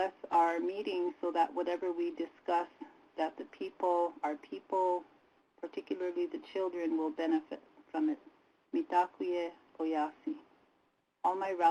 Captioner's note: native language spoken